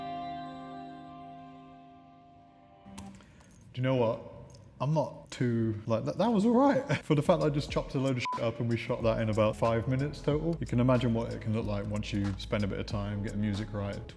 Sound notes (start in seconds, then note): 0.0 gentle music; 8.2 beep